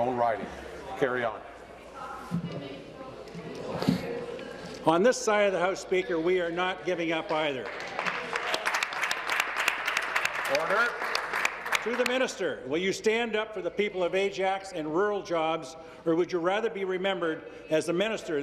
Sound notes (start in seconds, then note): 13.2 applause